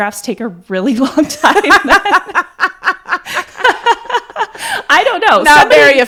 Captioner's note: laugh